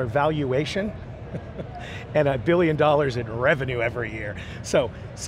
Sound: chuckles

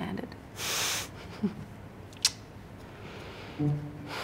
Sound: laughs

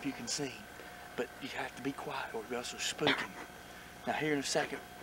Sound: giggle

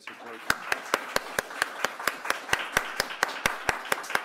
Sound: applause

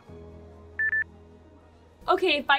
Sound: headset beeps

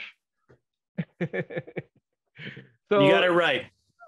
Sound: laughing

